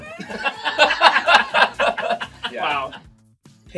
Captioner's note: all laugh